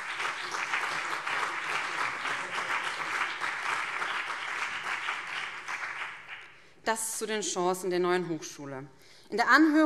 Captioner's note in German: Beifall BÜNDNIS 90/DIE GRÜNEN und CDU